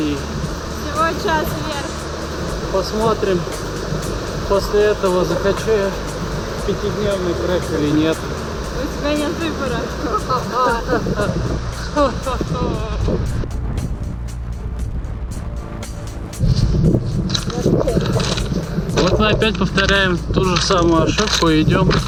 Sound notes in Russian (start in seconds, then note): 11.8 злодейский смех